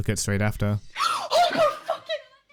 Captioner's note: gasp